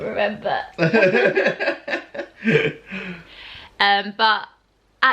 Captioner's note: laughter